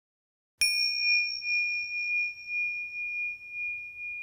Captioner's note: bell dings